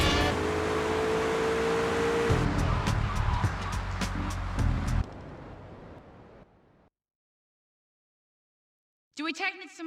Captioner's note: muffled yelling